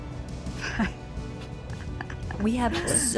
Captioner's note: chuckling